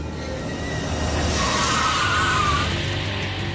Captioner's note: tires screeching